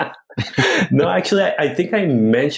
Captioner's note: laughs